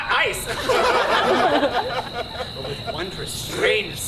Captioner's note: audience laughs